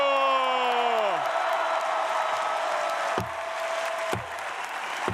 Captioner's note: crowd cheering